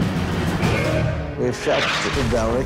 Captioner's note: artillery booming